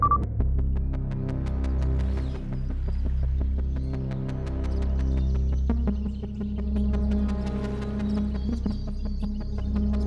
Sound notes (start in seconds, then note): 1.1 birds chirping